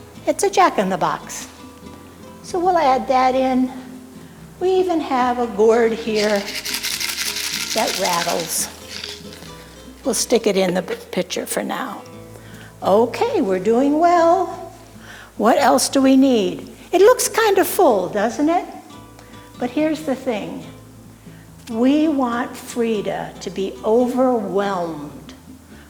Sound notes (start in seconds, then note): 5.9 gourd rattling